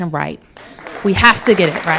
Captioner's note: applause